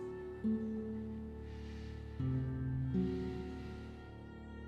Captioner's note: slow somber music; Coleman sighs